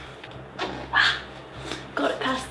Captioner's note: zipper glides along teeth